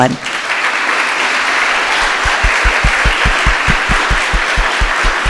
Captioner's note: audience applauds